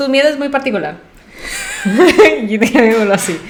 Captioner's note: laughs to keep from crying